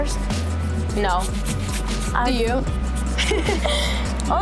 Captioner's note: laughter